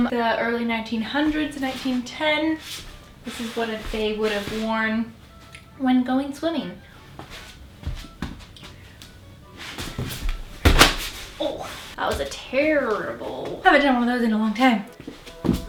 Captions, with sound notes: the early 1900s and 1910. This is what they would have worn when going swimming. [a clunk and hitting of fabric] Oh, that was a terrible. Have I done one of those in a long time.